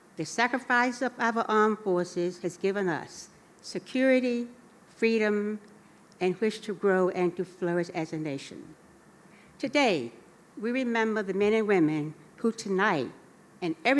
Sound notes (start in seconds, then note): none